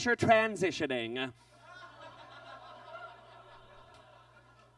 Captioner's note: audience laughs